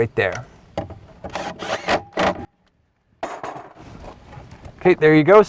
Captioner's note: drill whirring, no additional audio